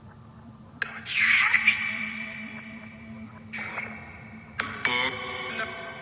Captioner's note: distorted voice speaking